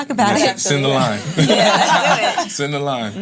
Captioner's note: laughs